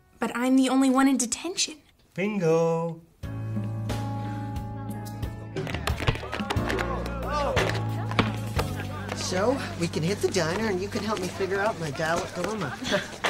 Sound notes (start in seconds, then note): 3.7 whimsical music; 5.7 basketball players chattering; 11.1 laughs